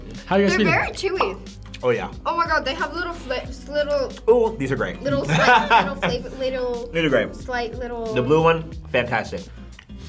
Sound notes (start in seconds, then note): 5.1 laughs